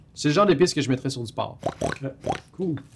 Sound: pig grunts

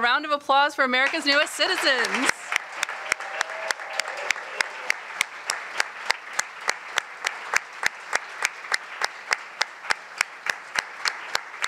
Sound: applause

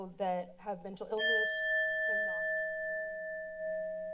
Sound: alarm sound

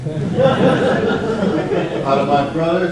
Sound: audience laughs

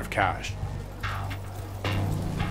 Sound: knock rapping

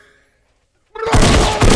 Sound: Fishstick bubbling; gun firing

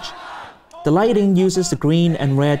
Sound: protesters chanting

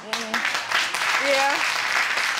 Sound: audience applauding

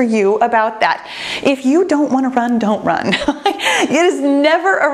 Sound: chuckles

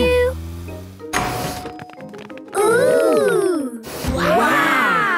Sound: door dings open

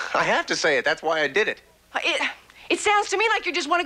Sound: scoffs; sighs

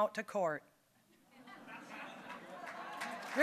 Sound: audience laughing; applause

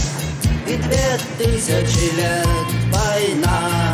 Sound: none

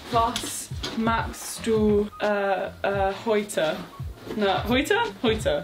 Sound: speaking in foreign language

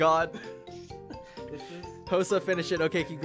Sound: sincere explanation tone

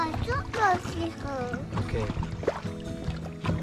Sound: foreign language

